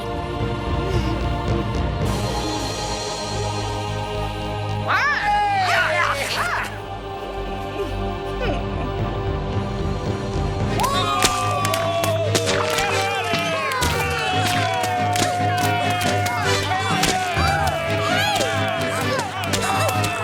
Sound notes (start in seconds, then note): 0.1 dramatic whimsical music; 4.8 crowd squirms in disgust; 7.4 dramatic whimsical music; 10.8 crowd boos